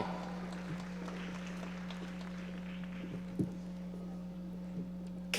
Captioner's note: audience applauding